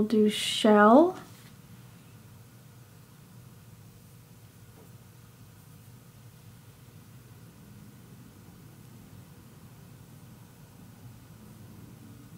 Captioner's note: silence